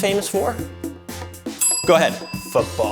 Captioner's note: bell rings